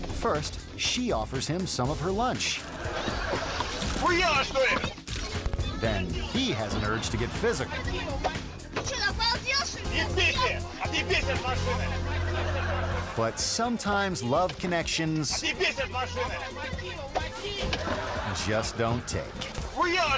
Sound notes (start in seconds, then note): 2.5 audience laughing; 4.5 driver speaking in a foreign language; 8.9 speaking in a foreign language; 12.4 audience laughing; 15.5 both yelling in a foreign language; 18.1 audience laughing; 19.9 driver yelling in a foreign language